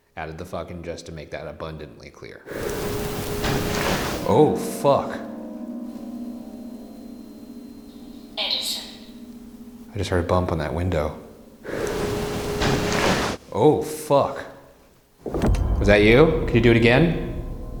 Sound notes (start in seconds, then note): 3.1 window thunks; 5.5 eerie dramatic music; 12.3 window thunks; 15.2 eerie dramatic music